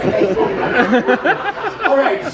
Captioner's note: audience laughs